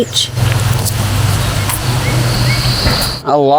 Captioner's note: birds chirping